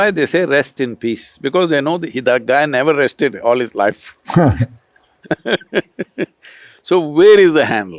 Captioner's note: laughter